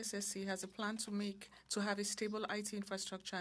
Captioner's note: speaking French